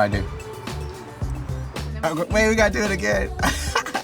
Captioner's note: laughs